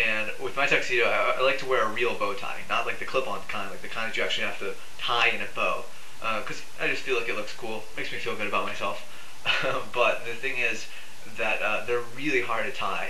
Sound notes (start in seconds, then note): 9.4 laughs